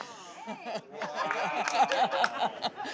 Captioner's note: laughing